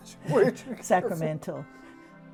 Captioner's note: laughs